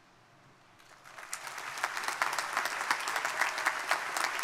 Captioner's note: crowd applauding